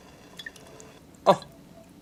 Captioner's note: water spattering